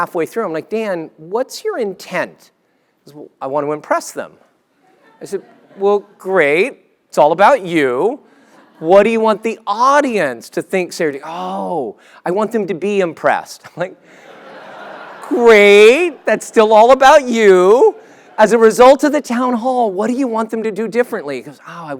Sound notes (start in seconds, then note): 14.6 laugh